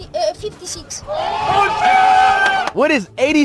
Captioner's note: crowd cheering